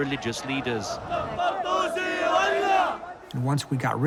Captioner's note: crowd chanting